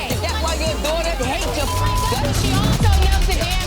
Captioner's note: beep